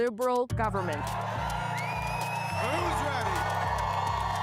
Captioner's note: crowd cheering